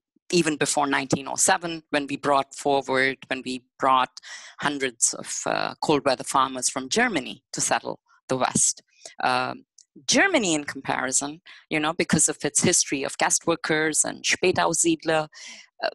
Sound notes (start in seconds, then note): none